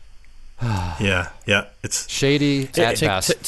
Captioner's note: sighs